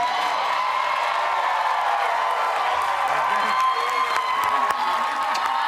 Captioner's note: cheers and applause